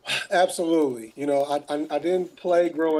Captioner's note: sighing